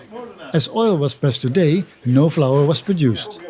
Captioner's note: foreign language